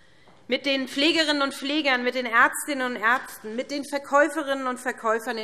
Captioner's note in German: none